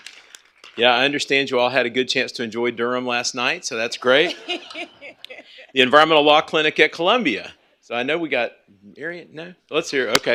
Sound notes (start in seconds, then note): 4.2 laughter